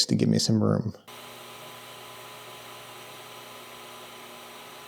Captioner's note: machinery whirring